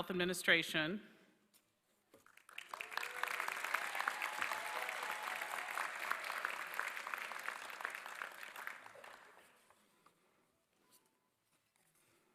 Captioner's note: applause